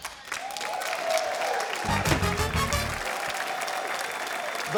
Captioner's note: cheering, applause